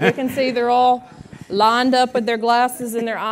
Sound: laughter

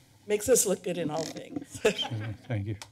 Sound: laughter

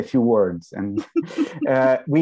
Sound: laughs

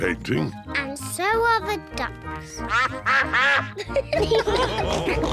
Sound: quacking; all laugh

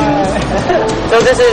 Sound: laughs

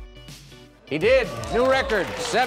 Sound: oohing

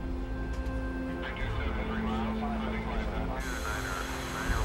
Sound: radio chattering

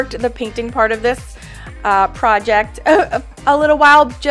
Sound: chuckles

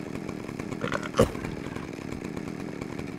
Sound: grunt

